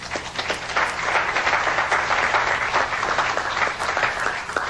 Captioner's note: applause